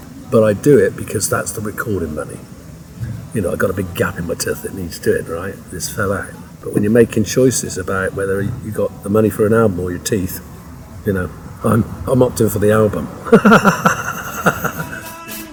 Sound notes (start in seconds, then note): 12.8 laughs